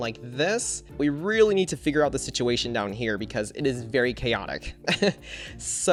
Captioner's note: chuckles